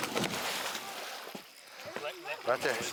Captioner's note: water splashing; gator thrashing boat